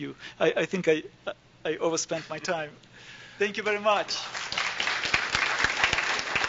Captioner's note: applause